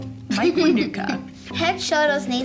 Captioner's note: laughs